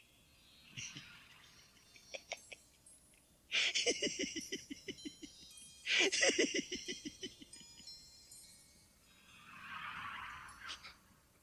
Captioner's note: Gatekeeper chortles at your Fate Card